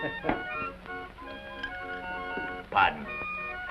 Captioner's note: laughing